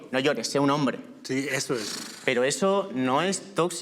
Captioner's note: sighing